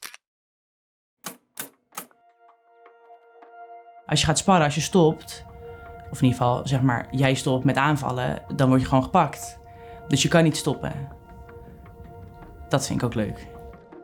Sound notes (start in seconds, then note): none